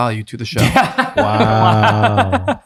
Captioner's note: laughing